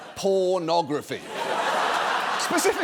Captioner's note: audience laughs